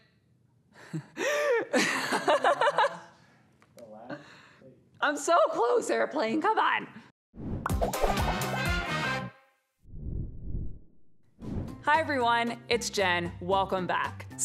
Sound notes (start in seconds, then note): 0.9 laughing; 7.6 upbeat music